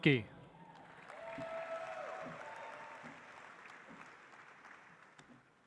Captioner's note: audience applauds